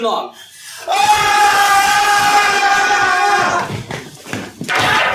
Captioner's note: ALL yell